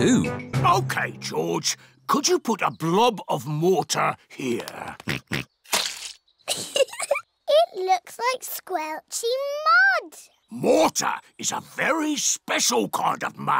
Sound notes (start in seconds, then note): 4.7 oinks; 6.4 giggles